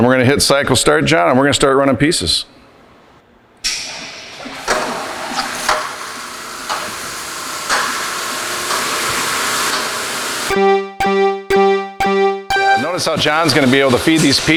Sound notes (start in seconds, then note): 4.0 machine starting noise